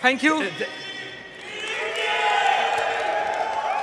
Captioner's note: cheers; applause